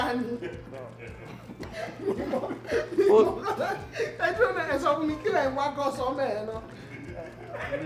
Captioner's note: laughs